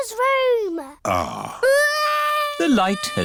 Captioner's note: crying